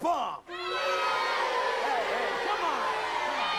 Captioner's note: booing